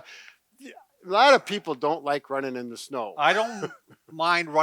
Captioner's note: chuckles